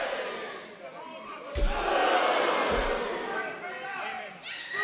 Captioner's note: crowd cheers